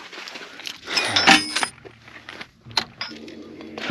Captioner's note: metal clanking